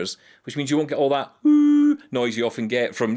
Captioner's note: humming